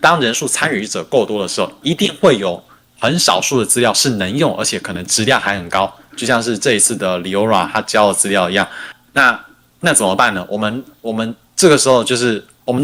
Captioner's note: non-english speech